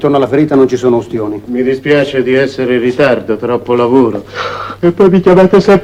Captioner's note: yawn